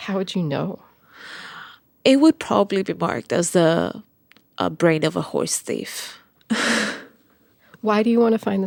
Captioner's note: laughs